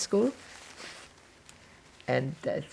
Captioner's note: wiping nose